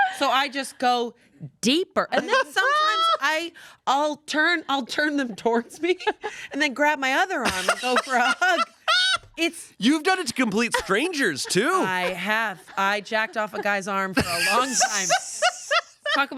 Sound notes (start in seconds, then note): 7.4 laughs; 14.1 laughs